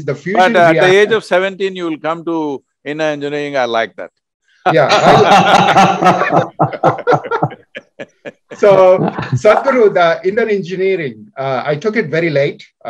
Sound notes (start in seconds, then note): 4.7 laughter